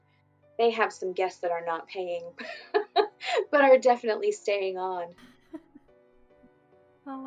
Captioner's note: laughs